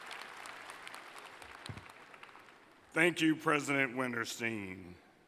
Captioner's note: applause